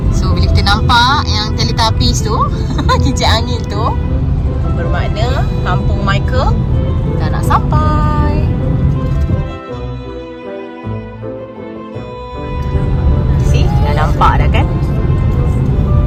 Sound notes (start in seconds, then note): 2.6 laugh